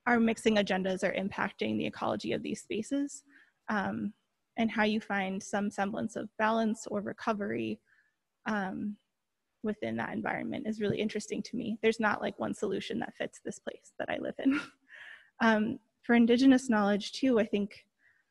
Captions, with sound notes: our mixing agendas are impacting the ecology of these spaces and how you find some semblance of balance or recovery within that environment is really interesting to me. There's not like, one solution that fits this place that I live in. (chuckles) For indigenous knowledge, too, I think,